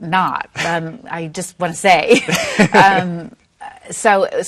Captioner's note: laughs